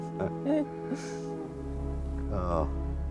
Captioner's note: laughing